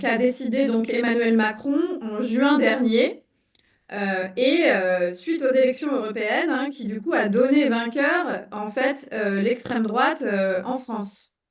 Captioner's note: speaking in French